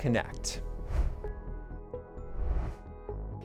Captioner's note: air whooshing